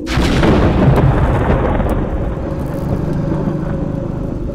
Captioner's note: thunder, growling noises